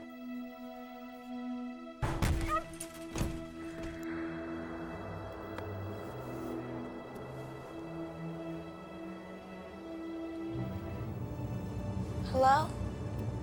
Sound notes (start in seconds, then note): 2.0 objects banging; 2.4 animal yelps; 5.5 suspenseful music